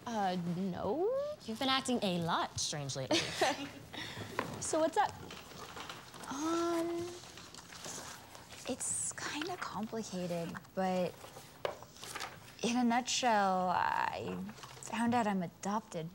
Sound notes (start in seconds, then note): 3.0 Eliza laughs